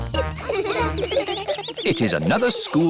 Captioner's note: children giggling